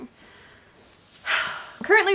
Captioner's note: sighs